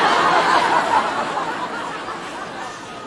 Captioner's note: humiliating laughter